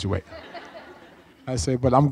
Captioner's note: audience laughs